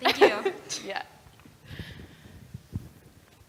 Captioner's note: laugh